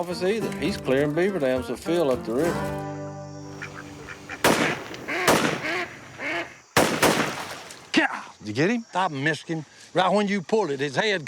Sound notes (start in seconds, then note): 3.5 duck honking; 3.7 gunshots